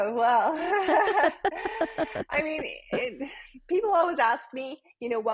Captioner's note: both laugh; laughs